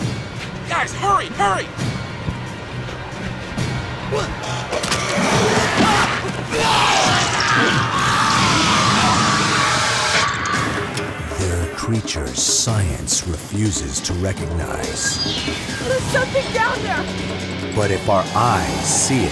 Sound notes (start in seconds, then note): 4.9 screaming